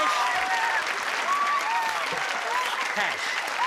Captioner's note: applause